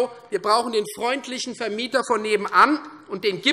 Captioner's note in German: none